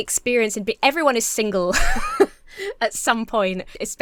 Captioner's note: laughs